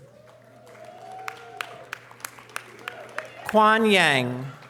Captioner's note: audience applause